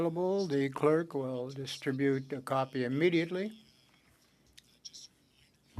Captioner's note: speaking French